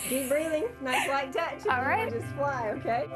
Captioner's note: laughs